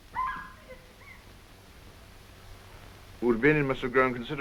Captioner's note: girl laughing